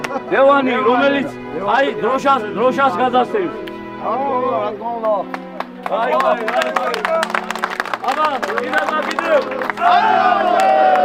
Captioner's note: cheers